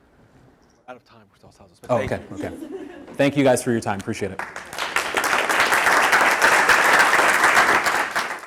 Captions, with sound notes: Thank you guys for your time, appreciate it. (audience applause)